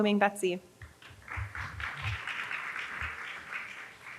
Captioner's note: applause